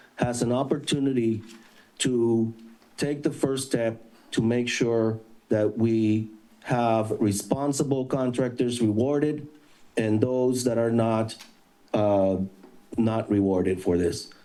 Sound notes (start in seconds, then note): none